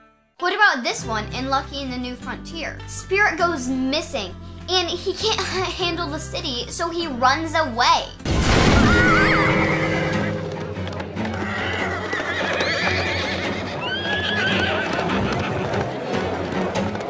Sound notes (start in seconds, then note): 11.1 horses whinnying